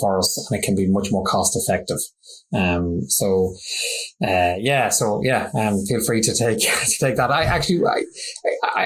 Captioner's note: laughs